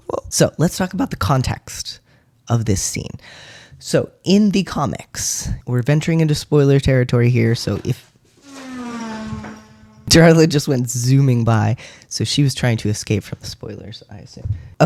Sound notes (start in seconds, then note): 7.8 clattering; 8.3 zooming car sound effect